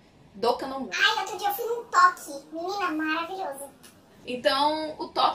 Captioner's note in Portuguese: voz modificada p/tom engraçado